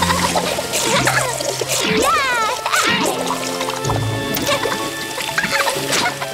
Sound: air bubbles sloshing; water whooshing rhythmically; girls giggling

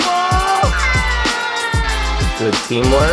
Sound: screams; upbeat music

